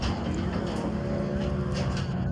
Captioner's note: engine roaring